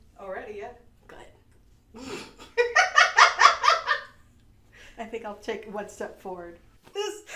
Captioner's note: laughter